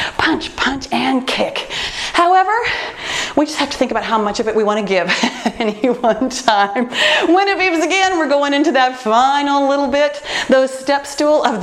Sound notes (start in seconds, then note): 5.1 laughs